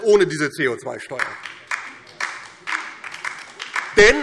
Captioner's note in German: Beifall DIE LINKE